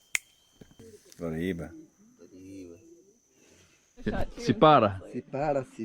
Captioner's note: speaking in foreign language